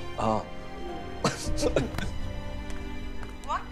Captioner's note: Rohit laughing